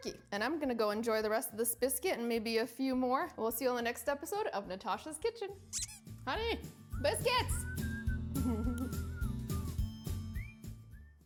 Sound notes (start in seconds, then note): 8.4 giggles; 10.1 cheerful music